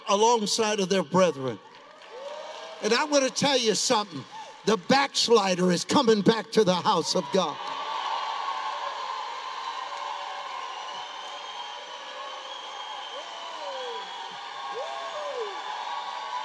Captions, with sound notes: alongside of their brethren. And I want to tell you something, the backslider is coming back to the house of God. (congregation cheering)